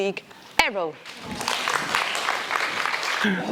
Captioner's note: audience applause